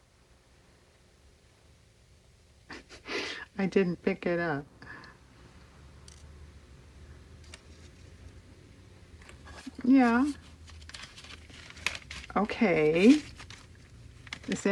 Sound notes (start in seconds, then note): 2.7 laughs